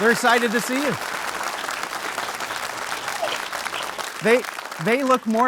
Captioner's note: audience applauding